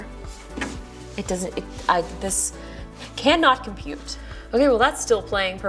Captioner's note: stammering